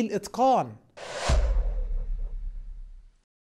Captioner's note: sound effects